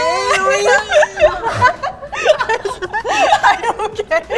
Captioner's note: laughing